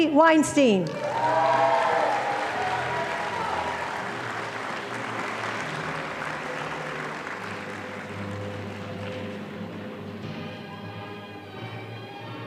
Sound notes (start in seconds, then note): 0.9 audience applauding